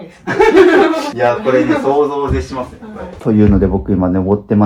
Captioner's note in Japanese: 笑い